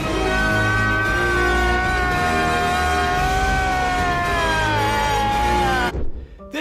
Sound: emotional scream

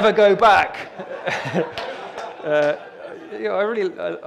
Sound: audience laughter

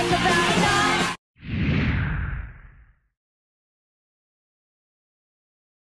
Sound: electronic whoosh

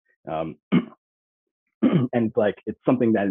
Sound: clearing throat

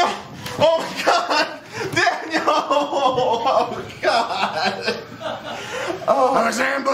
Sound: sobbing

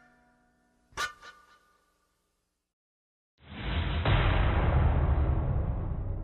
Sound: metal clash

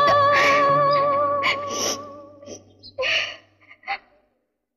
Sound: sobbing

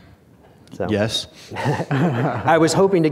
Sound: chuckles

